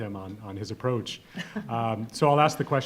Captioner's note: chuckling